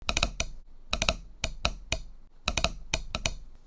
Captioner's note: tapping